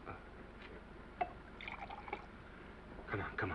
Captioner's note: scotch sloshing